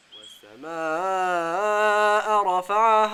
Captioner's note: Arabic